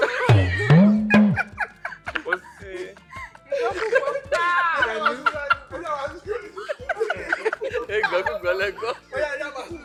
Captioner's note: everyone laughs